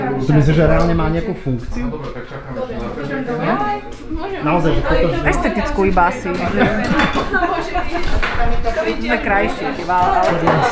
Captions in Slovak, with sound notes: - To myslíš, že má reálne nejakú funkciu? - Áno. - Estetickú iba asi. - [smiech] Sme krajší iba.